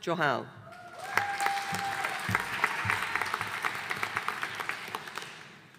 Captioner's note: audience applauding